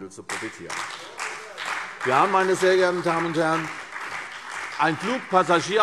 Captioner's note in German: Beifall CDU und vereinzelt BÜNDNIS 90/DIE GRÜNEN